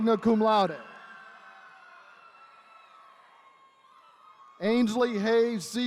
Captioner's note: attendees cheering